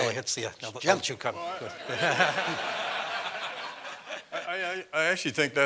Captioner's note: laugh